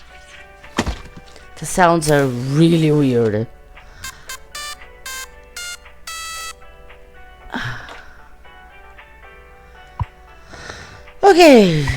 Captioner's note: sighs